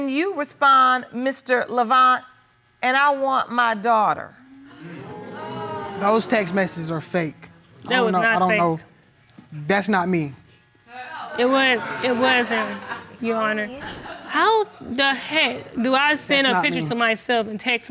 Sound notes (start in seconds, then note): 4.5 audience groaning; 11.4 audience laughing